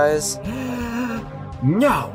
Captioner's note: deep gasp